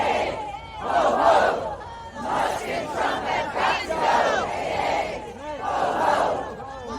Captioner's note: chanting